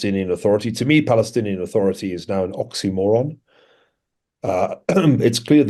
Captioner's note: cough